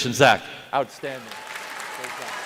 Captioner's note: applause